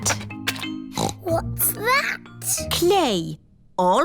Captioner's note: snorts